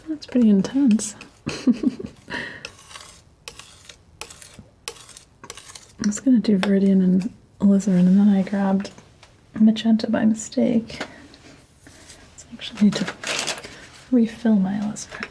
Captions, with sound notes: That's pretty intense. [Laughing] I'm just gonna do Viridian and Alizarin and then I grabbed Magenta by mistake. I actually need to refill my Alizarin.